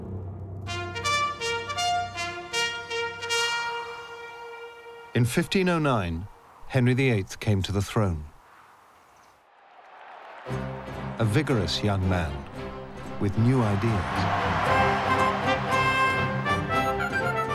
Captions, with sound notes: [ Fanfare plays ] In 1509, Henry VIII came to the throne. [ Crowd cheers ] A vigorous young man with new ideas. [ Cheering intensifies ]